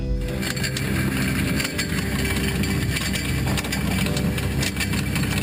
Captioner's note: anchor chain rattling